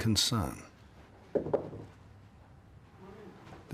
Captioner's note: knocking